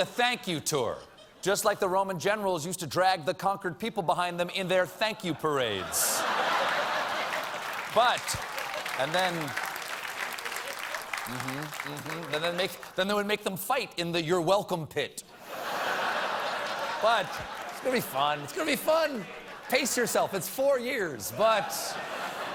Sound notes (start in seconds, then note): 5.7 laughter; 6.5 applause; 21.3 laughter